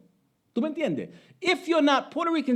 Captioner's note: speaking Spanish